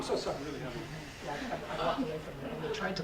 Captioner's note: audience laughs